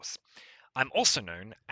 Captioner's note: breathes